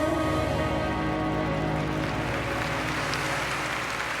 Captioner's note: cheering and applause